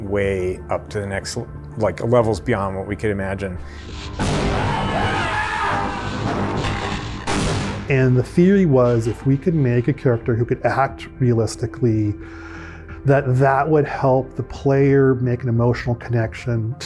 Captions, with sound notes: way up to the next levels beyond what we could imagine. (loud explosion) (frantic screaming) - And the theory was if we could make a character who could act realistically, that that would help the player make an emotional connection